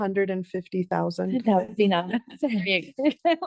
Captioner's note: laughs; board members laugh